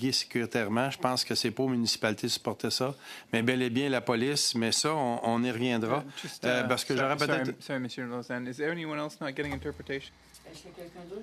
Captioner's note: speaking French